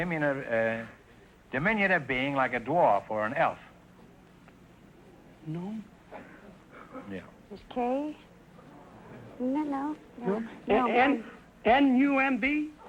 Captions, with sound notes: diminutive being like a dwarf or an elf. - Gnome? (whispering) - It's K, isn't it now? No? - N-U-M-B?